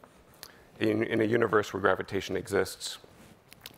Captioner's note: none